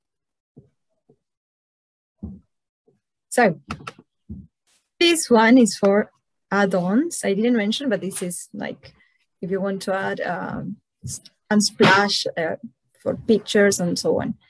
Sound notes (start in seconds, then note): none